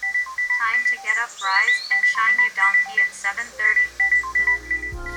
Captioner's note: alarm tone